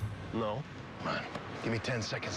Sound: normal voice

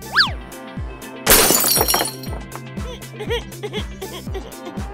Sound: crashes; cries

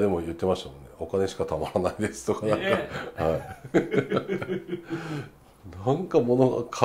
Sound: laugh

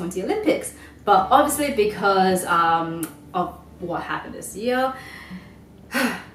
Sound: sighs

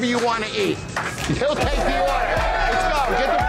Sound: patrons cheering

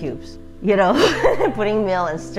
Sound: speaker laughing

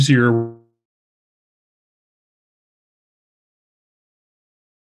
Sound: microphone fades

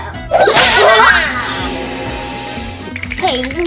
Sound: magic trill; chattering

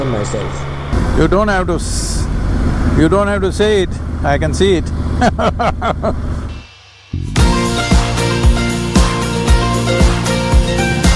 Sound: laughs

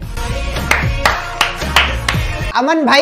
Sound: clap x5

